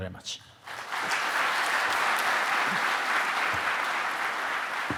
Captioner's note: audience applauding